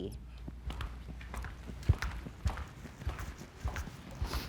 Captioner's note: footsteps clomping